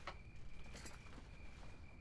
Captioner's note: none